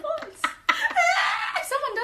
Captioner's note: laughs loudly